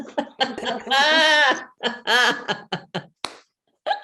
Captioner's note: all laughing